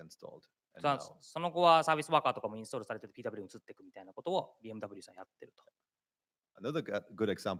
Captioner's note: speaking japanese